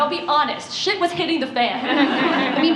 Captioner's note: laughter